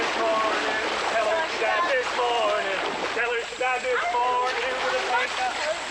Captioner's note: children splashing and singing indistinctly